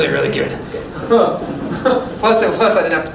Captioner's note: laughter